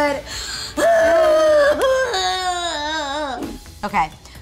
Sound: dramatic crying sounds

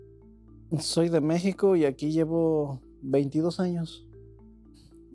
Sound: speaking in foreign language

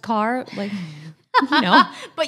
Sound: both laugh

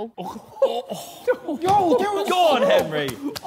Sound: Sidemen groan

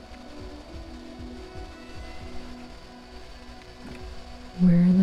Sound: heavy footsteps

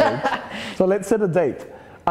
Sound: laughter

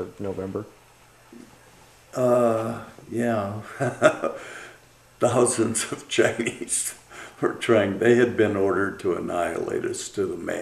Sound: laughs

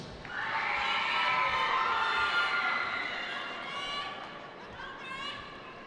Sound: cheering

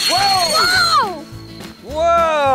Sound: firework whistles

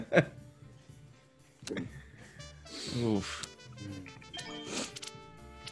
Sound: laugh

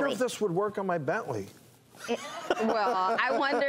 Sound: laughter

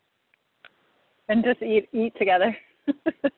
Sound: laughs

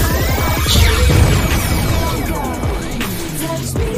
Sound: explosion

